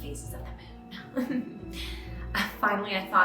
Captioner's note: chuckles